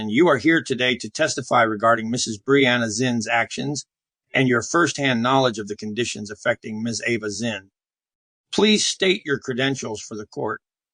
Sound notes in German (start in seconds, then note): none